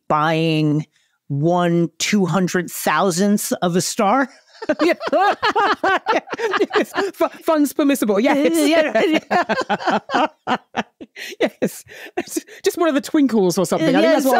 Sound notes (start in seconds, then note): 4.4 laugh; 8.9 continues laughing